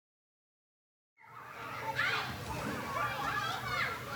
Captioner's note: children playing